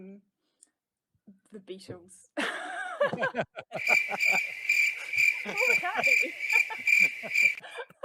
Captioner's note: crickets sound fx